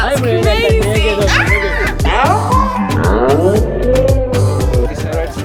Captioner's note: screaming